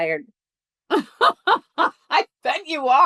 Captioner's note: laughs